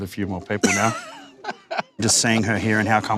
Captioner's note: laughing